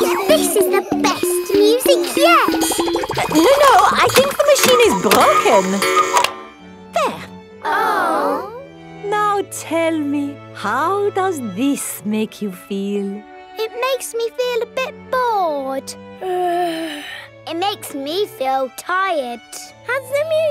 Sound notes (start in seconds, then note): 0.1 giggles; 6.2 cuckoo clock; 9.3 chamber music playing; 16.3 yawns